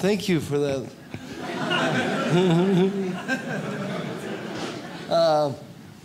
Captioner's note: audience laughs